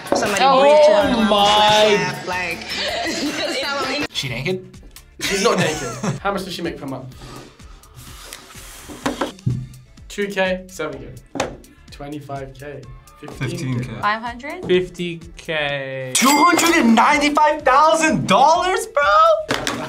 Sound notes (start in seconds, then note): 8.7 sighs